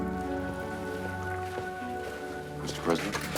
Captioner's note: footstep